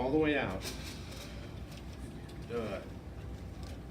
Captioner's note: exhales